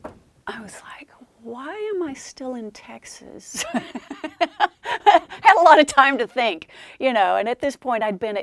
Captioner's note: laughs